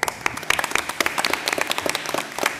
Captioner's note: applause